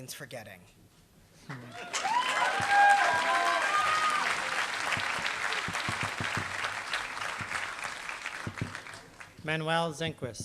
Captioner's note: applause